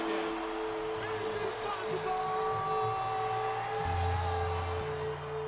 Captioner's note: cheering, music